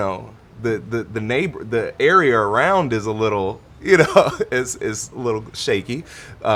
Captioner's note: chuckling